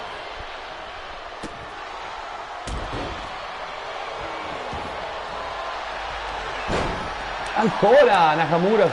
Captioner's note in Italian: Applauso